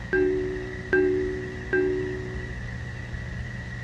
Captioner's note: computer chiming